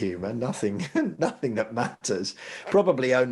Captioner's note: chuckling